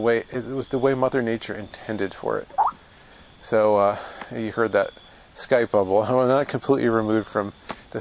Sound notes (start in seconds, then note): 2.5 skype bubble on phone